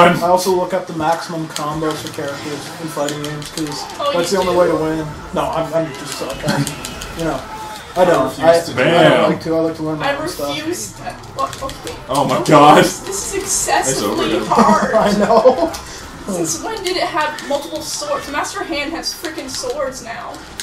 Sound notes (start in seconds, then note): 13.6 laughs